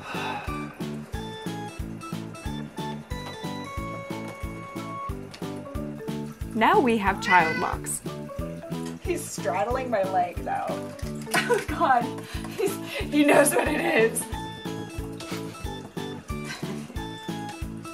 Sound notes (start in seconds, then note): 0.0 sighs; 7.1 Poki meows